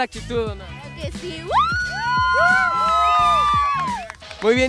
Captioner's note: shouts